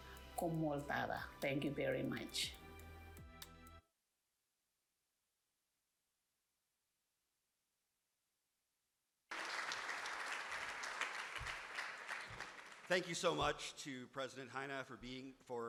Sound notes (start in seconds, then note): 9.3 audience applauding